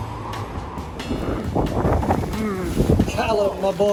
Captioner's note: wind gushing; bicycle wheels reeling